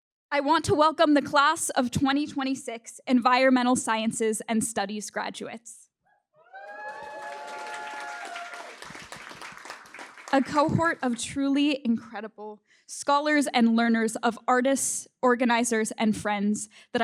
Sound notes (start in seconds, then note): 6.5 applause